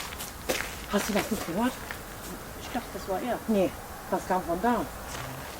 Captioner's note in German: leiser Aufschrei